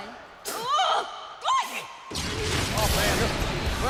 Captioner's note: Melina yelling